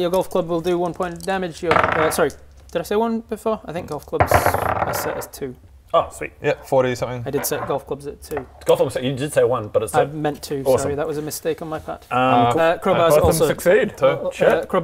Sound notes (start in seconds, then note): none